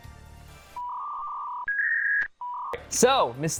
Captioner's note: dial-up squawk